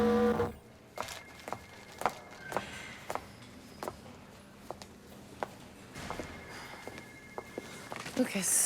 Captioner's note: footstep